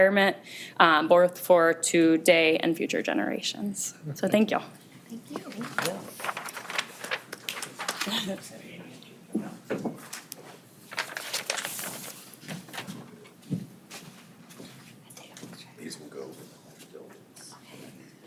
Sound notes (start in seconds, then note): 7.6 background chatter